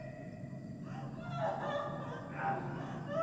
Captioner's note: crying